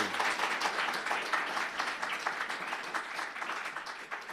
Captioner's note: attendees clapping